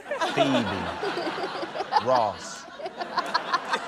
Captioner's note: laughter